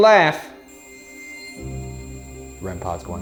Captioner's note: REM-Pod beeping